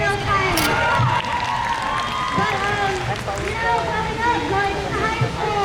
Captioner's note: crowd cheers